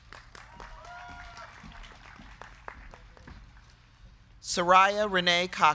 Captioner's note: crowd clapping; crowd cheering